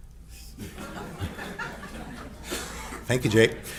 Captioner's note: audience chuckles